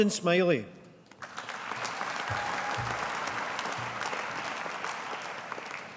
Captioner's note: audience applauding